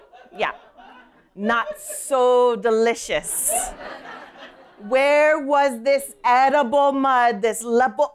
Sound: laughter; laughter

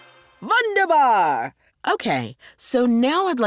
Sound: german

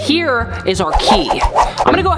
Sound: whoosh sounds

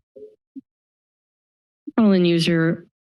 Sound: silence

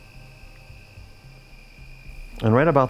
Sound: crickets chirping

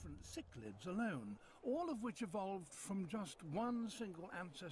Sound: faint noise from TV

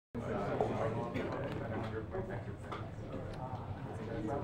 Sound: classroom chatter

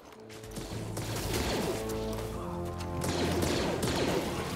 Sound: blaster fire

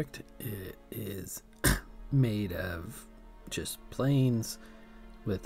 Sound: coughs

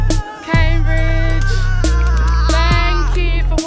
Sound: shouting

